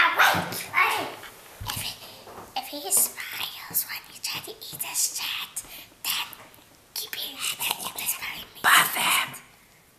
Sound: dr. evil whispering

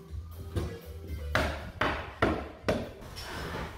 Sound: hammering

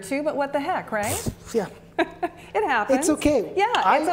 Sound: laughs

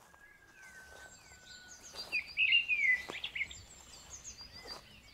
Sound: birds chirping

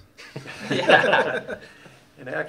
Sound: laughs

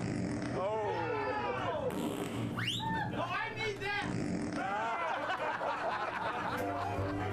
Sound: sound of farting

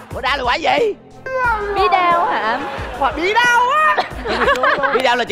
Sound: squash

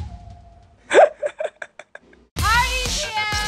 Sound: laughing

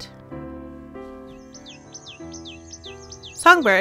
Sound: bird calls

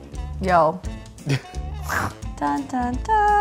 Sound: chuckles

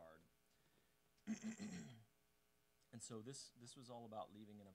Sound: clearing throat

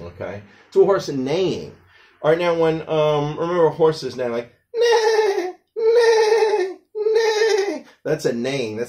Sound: a horse's neighing sounds

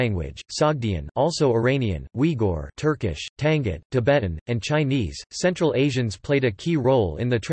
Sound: Turkish

